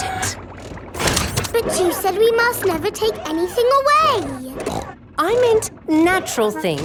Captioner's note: snorts